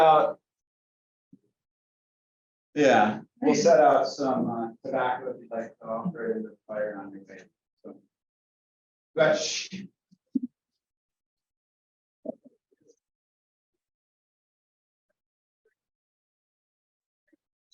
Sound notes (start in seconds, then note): 6.6 chatter